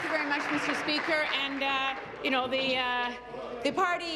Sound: applause

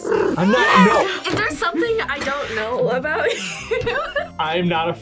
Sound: laughs

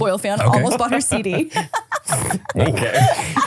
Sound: laughing

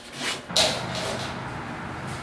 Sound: sprays

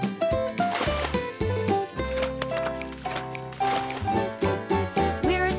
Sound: splash

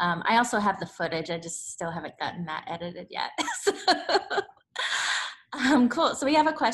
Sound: laughs

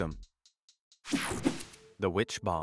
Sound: screen whooshing

